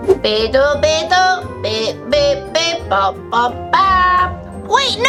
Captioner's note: none